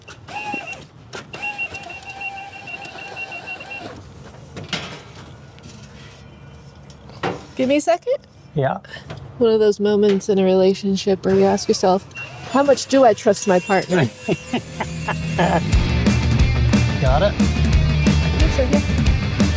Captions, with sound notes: Give me a second. Yeah. One of those moments in a relationship where we ask yourself, how much do I trust my partner? (laughing) (upbeat music) Got it.